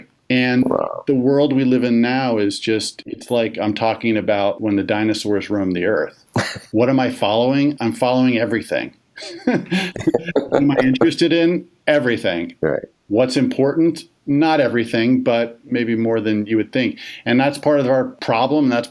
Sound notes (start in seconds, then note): 9.2 laughs